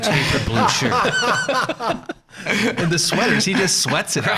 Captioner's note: all laughing